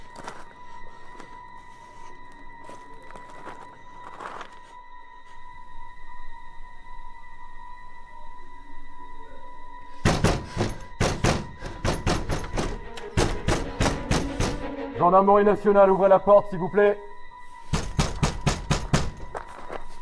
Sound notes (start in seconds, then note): 10.0 banging on door; 14.7 shouting in French; 17.7 banging on door